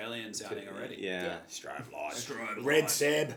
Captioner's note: in Bogan Aussie accent